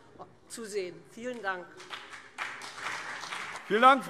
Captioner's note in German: Beifall BÜNDNIS 90/DIE GRÜNEN und CDU